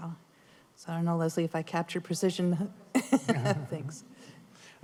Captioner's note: laughter